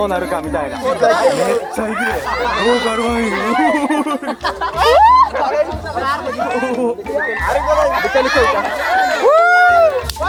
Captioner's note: laughs